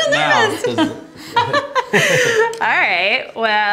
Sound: laughter

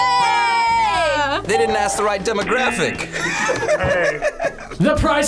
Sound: laughs

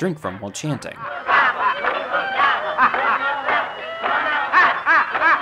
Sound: group chanting

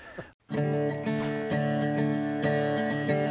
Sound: laughter

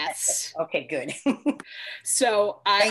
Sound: chuckles

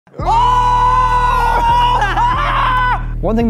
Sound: screaming

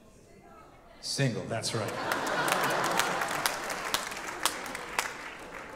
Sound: audience laughing

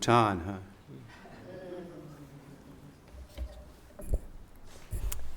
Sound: audience laughs

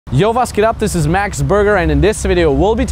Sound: speaks in a foreign language

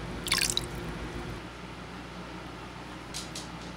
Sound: water burbling

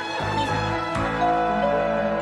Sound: door bell rings

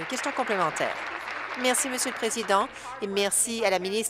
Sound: applause

